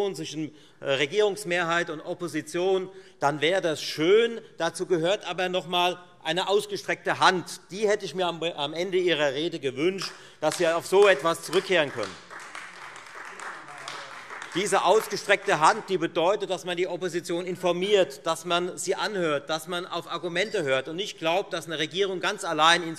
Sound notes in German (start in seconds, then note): 12.3 Beifall Freie Demokraten und AfD